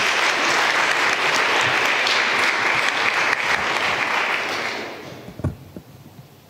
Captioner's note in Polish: oklaski